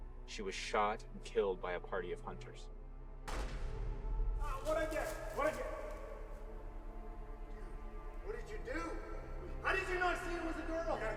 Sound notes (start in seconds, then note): 3.2 gunshot booming